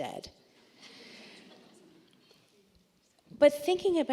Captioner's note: laughter